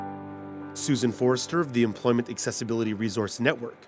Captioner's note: voiceover